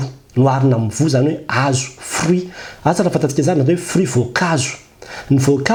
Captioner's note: French language